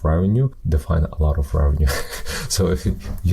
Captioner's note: chuckles